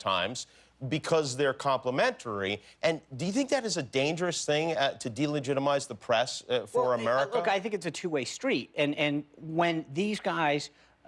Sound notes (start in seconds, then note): none